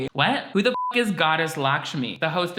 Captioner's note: beep